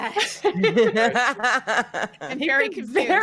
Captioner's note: both laughing